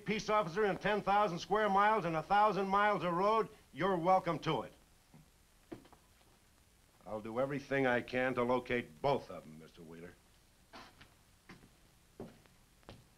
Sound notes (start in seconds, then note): none